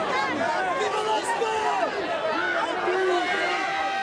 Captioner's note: crowd murmuring